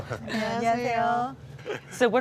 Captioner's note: speaks in foreign language; clerks speaking in foreign language